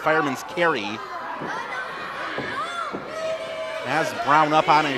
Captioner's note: crowd shouts